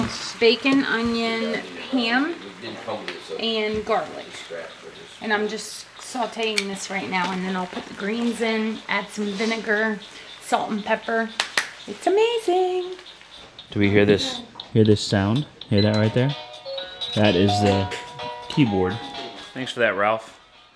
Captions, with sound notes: - So, bacon, onion, ham and garlic. And, I'm just sauteing this right now and then I'll put the greens in, add some vinegar, salt and pepper. (hands clapping) It's amazing! - Do we hear this, hear this sound? Hear that right there? (playful piano music) That is the keyboard. Thanks for that Ralph.